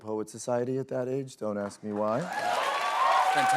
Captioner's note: cheers and applause